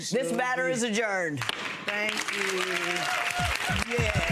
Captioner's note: gavel banging; audience clapping